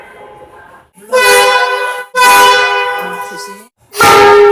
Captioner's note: air Horn